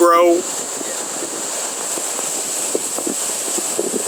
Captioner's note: the sound of the ocean